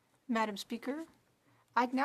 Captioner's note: speaking French